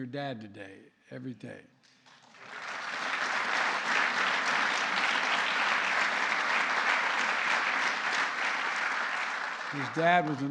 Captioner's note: applause